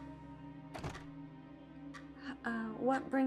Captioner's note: door thudding